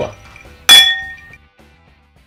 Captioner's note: cling!